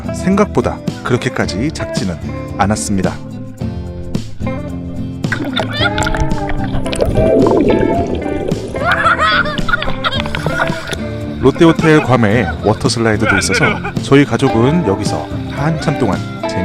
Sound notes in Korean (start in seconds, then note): 8.8 웃음